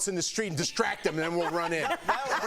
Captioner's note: laughter